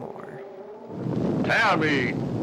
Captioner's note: gusting